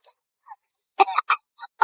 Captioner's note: coughs